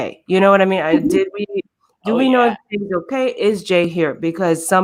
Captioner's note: murmurs